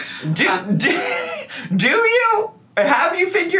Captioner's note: man chuckling